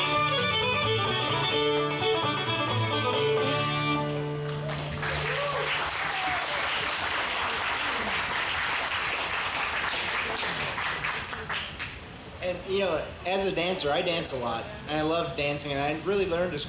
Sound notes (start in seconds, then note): 4.4 audience applauds and cheers